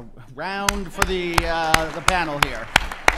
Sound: applause

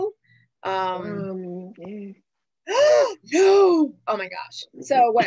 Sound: exclaiming

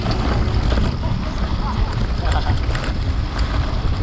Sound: music fading out; laughs

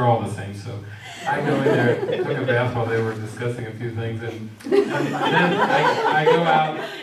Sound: audience laughs

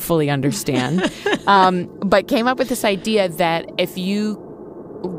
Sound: laughs

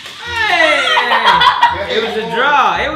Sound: shouts and laughs

